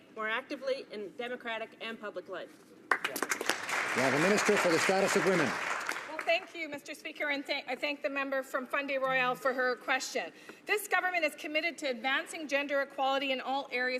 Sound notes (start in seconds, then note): 6.2 some Applause